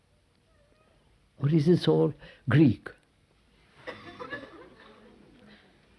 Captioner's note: laughter